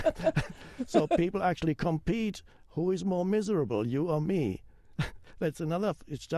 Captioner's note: both laugh; chuckles